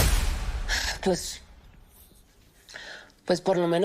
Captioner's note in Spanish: Suspiro